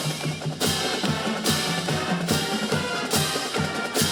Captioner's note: clapping